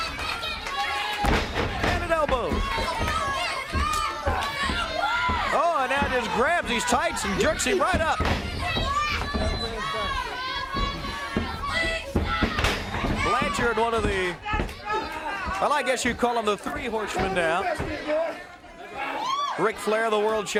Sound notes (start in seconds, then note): 3.0 crowd cheering; 6.7 crowd chatter; 10.8 crowd chatter